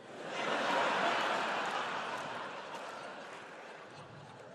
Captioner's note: audience laughs